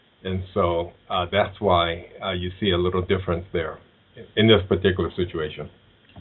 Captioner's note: audio interference